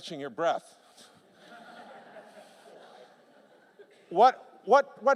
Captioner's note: laughter